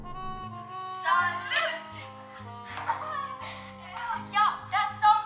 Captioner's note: laughter